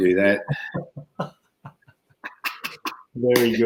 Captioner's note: laughing